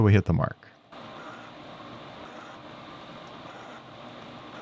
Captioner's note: machinery whirring